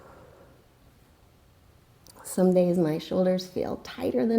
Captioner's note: deep breathing sounds